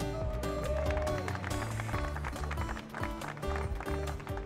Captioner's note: group clapping